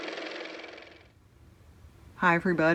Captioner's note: car motor